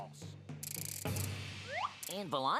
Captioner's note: whirring